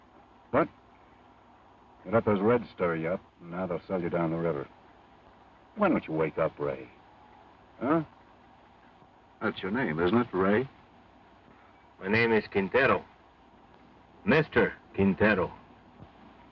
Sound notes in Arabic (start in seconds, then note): none